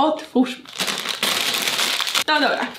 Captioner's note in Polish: szelest